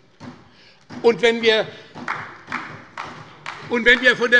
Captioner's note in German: Beifall bei Abgeordneten der : So ist es!